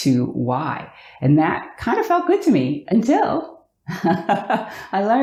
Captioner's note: laughs